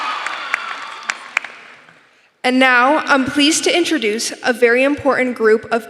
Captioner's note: applause